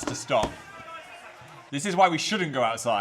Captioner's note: photographers chattering